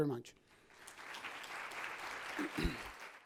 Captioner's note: audience applauds